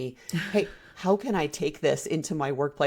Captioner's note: laughs